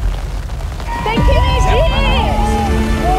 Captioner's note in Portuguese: barulho da espuma; grita